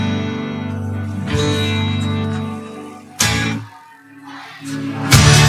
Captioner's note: audience applauding